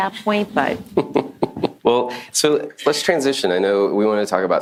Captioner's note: chuckles